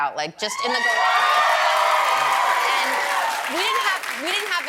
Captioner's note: applause